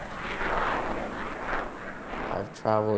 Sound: plane engine roaring

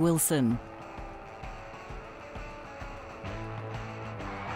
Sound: audience applauding

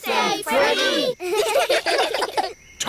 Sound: children giggle

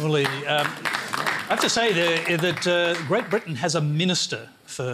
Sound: applause

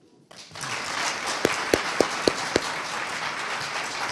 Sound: audience applauding

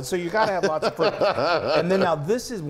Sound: laugh

